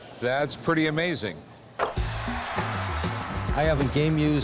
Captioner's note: net swishes, cheers and applause